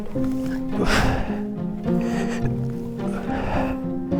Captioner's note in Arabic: شخير